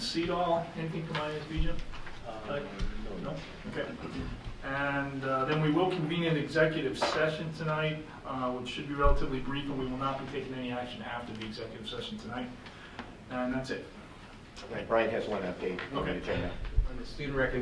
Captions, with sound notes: on SEDOL, anything from IS region? (man murmurs off microphone) No? Okay. And then we will convene an executive session tonight which should be relatively brief we will not be taking any action after the executive session tonight. And that's it. >>Briant has one update. >>Okay.